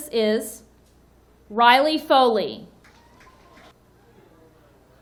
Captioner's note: audience cheering